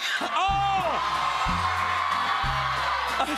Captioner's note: cheers and applause